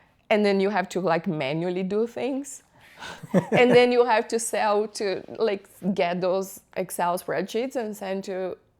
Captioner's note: laughter